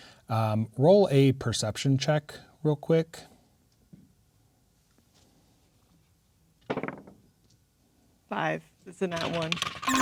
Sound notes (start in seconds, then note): 6.5 dice rolling; 9.8 disappointed beeping sound